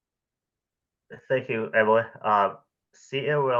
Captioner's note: background voices